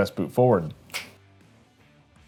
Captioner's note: fingers snapping